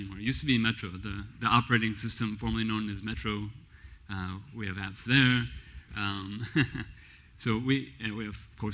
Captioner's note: laughs